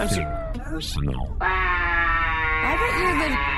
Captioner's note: quietly, disbelieving